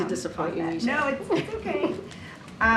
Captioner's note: laughs